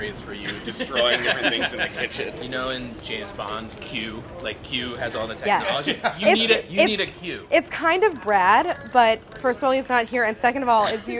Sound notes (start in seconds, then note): 2.3 laughing